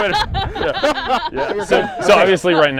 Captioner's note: laughs